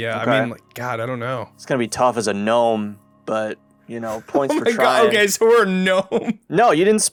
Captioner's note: laughs